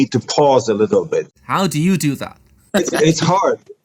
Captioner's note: laughs